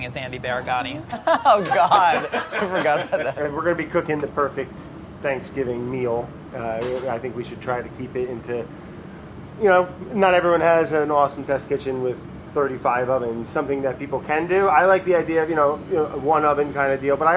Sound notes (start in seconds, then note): 1.0 laughs; 1.0 group laughs